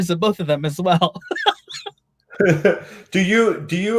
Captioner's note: laughs